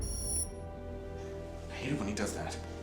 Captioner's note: beep